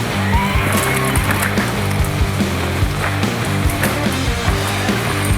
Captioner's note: gravel crunching